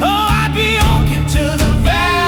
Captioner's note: vocals become distorted, urgent, commanding